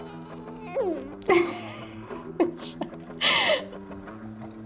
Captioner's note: she moans and laughs